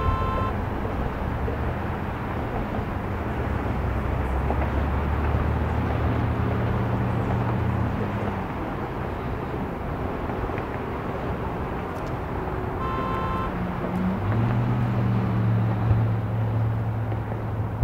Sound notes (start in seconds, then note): 0.0 car honks; 3.1 cars whoosh; 12.7 car honks; 16.2 cars whoosh